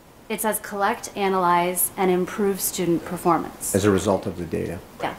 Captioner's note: none